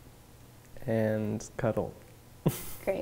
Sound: laugh

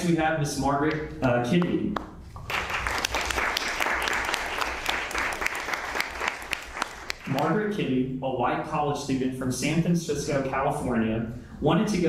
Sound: applause

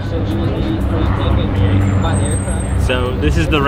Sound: plane noise drowns out background voices

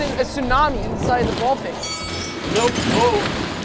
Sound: bell dings

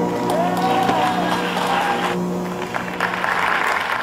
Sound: audience claps

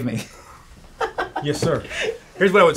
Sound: laughs

